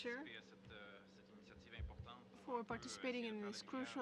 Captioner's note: speaking French